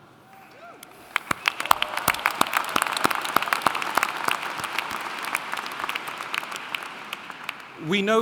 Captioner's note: applauding